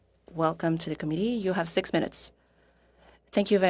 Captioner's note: speaking French